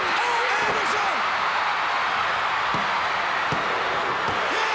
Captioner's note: crowd cheering